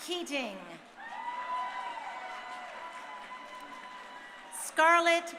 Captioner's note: crowd cheering